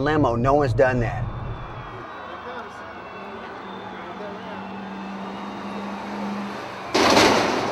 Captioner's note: crowd cheering